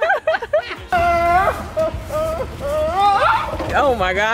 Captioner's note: friends laughing; screaming